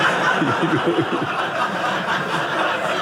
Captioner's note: audience laughing